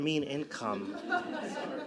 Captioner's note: laughing